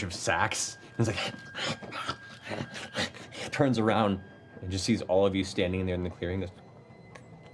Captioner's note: excited panting